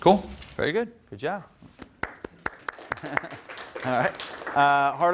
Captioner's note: applause